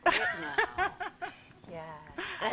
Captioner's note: laughter